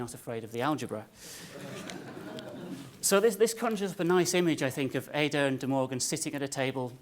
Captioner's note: laugh